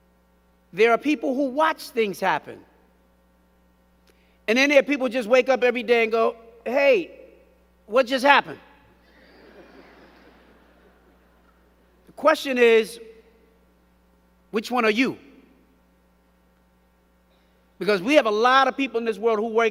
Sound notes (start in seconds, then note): 9.0 crowd giggling